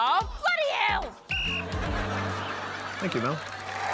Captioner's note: blows whistle